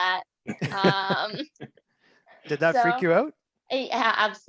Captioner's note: chuckles